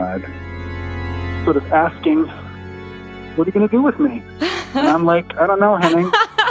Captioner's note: laughs